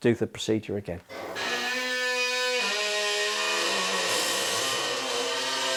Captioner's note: heavy machinery noise